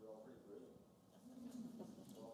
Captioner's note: laughter